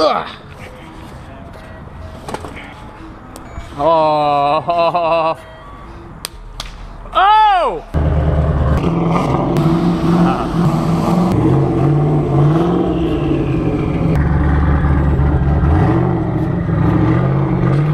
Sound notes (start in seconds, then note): 8.4 car engines revving